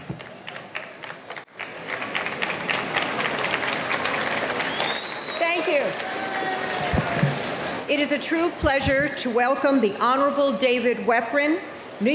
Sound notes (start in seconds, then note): 2.1 applause